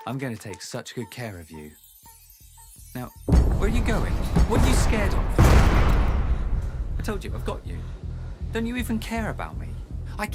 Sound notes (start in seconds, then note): 1.4 sparkling; 3.3 banging